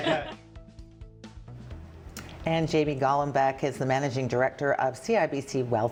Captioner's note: laughter